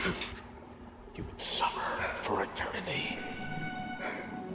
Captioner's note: echoes